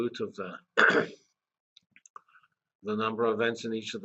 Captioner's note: cough